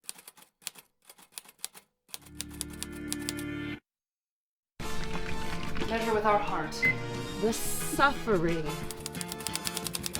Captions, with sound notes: (keyboard clicking) (upbeat music) - Measure with our heart. - The suffering.